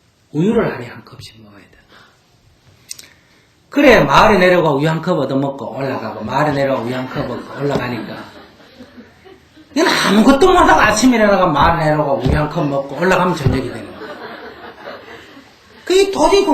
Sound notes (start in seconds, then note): 6.5 audience Laughter; 15.4 audience Laughter